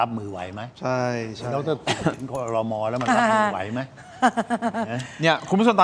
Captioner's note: laughs